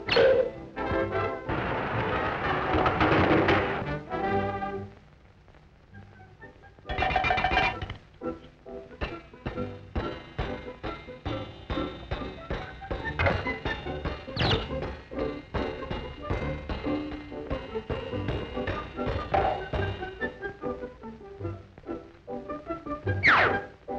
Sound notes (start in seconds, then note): 0.3 cane clangs; 7.3 metal clangs; 9.0 leg thumps; 20.4 sweet orchestra music